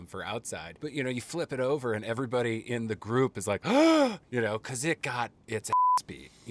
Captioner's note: gasping